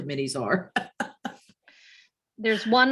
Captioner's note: chuckles